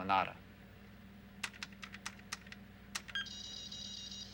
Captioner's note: keys clicking